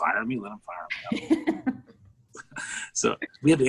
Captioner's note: laughs